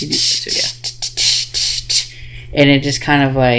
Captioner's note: imitates drum beat